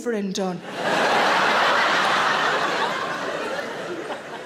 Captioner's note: audience laughing